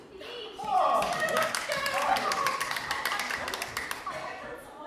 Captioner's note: everyone claps